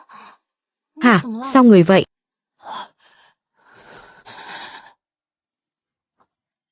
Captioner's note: khịt mũi